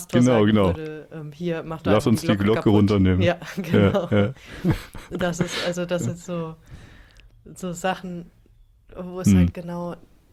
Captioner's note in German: gelächter